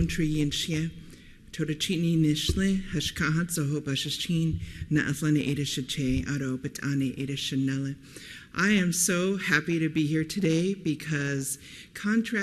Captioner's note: speaking foreign language